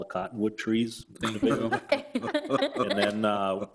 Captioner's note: people laughing